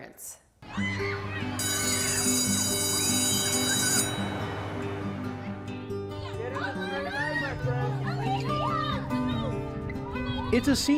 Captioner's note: bell ringing